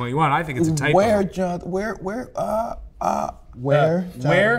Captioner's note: stuttering